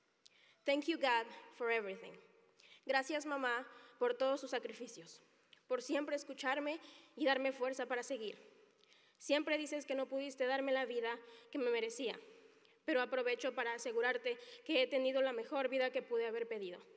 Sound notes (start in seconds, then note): 4.8 speaking Spanish